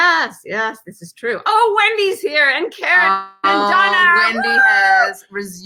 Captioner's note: shouts